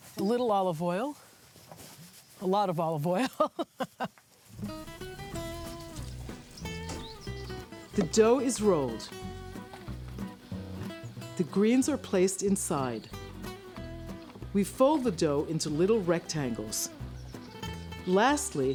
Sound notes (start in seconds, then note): 6.5 laughs